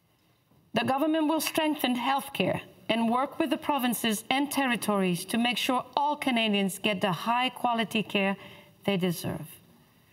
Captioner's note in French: voix de l'interprète